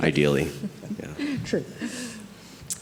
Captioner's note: laughs